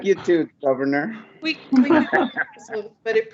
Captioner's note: laughter